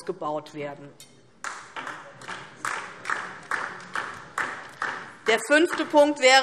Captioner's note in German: Beifall DIE LINKE